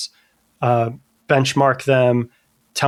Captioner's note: uh